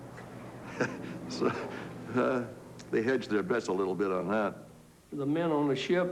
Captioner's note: laughs